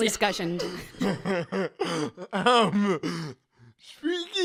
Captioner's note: laughs